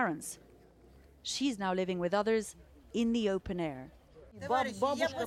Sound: speaking foreign language

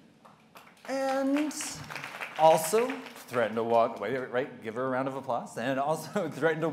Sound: applause

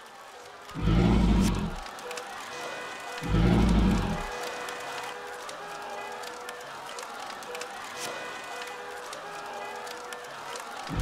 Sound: burning sound

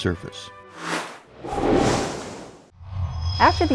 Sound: sound Effects

